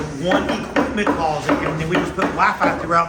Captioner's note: hammering